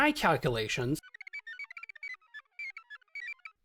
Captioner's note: computer noises